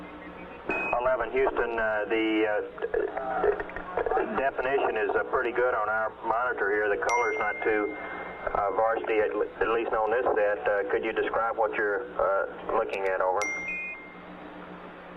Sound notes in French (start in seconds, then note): 5.5 bip - bip